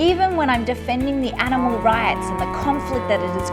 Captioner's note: cow mooing